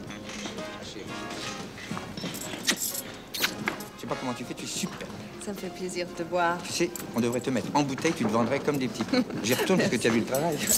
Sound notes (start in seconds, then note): 3.9 French spoken audio